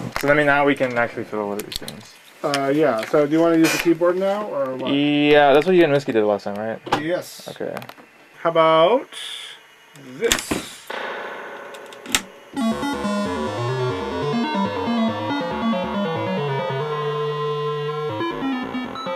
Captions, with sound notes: So then we--now we can actually fiddle with these things. - Uh, yeah, so, do you want to use the keyboard now, or what? - Yeah, that's what you and Miske did last time, right? - Yes. - Okay. - How 'bout... this? (Random bloops)